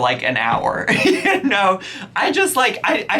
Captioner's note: laughs